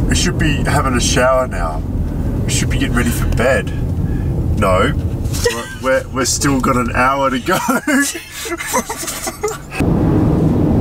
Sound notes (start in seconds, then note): 5.4 laughs; 7.3 laughing